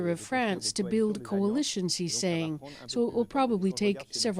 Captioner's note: speaking French